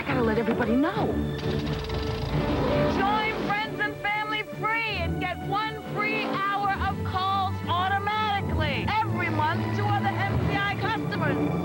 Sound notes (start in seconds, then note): 1.2 plane propellers, engine; 3.1 yelling; 11.4 over plane engine